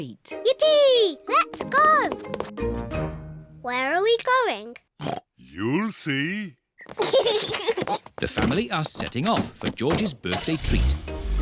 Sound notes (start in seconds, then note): 5.0 oinks; 6.9 kids giggle; 11.2 horn honks